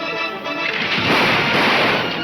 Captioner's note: gun firing